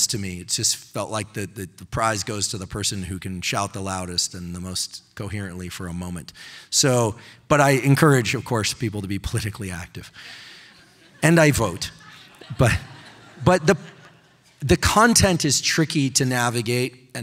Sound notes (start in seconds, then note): 10.5 audience laughing